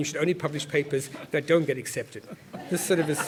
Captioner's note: laugh